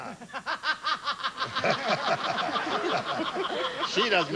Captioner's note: brett laughs maniacally